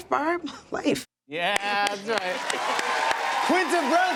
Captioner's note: cheers and applause